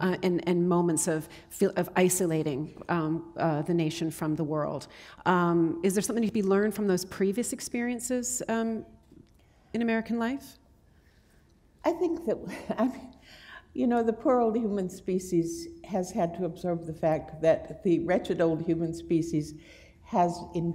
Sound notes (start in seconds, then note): 12.8 chuckle